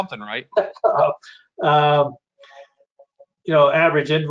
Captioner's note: laughs